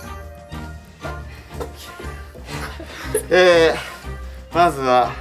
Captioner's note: laughs